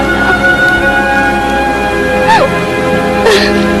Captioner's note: crying